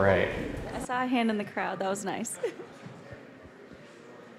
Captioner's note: giggling